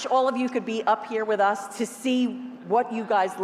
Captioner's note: none